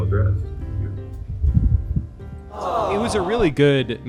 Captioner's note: romantic music; audience awes